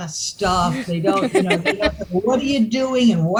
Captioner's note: laughter